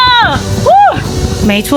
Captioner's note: yelling